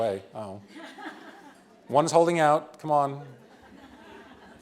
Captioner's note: laughter